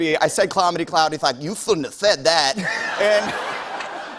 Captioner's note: laughter